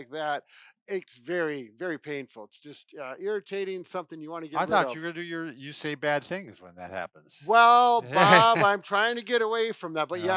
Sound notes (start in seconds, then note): 8.0 laughs